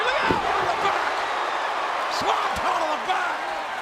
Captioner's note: audience cheering